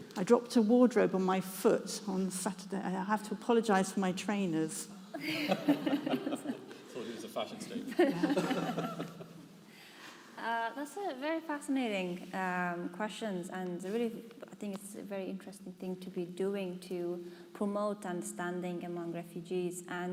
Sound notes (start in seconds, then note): 5.1 all laughing